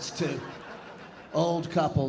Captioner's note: audience laughing